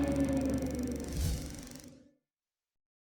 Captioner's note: whoosh